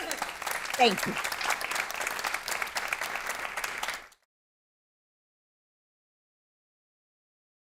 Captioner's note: applause